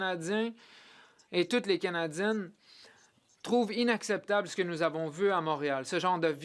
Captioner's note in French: voix de l'interprète